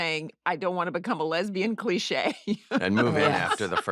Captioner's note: laughs